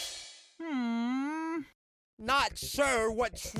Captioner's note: muffled sigh